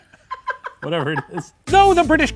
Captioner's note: laughing